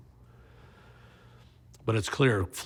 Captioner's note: inhales